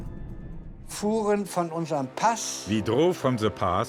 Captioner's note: speaking in foreign language